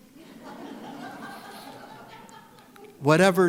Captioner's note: audience laughs